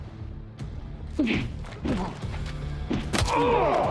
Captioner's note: punch, groans; thud